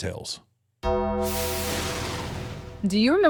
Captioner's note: bell tolls; thunder rumbles